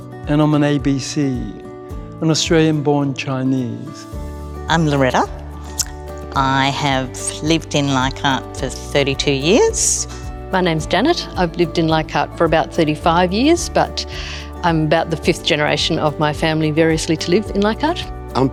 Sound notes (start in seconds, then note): none